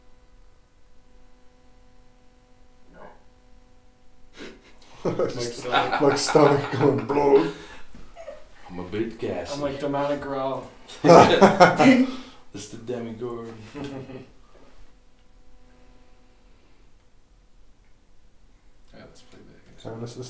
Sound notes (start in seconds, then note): 2.9 stomach gurgling; 4.4 group laughing; 10.9 group laughing